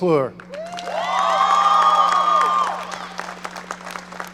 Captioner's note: audience cheering